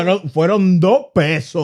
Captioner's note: speaking In Foreign Language